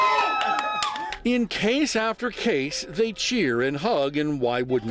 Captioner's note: cheering